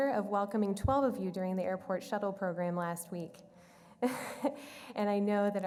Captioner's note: laughs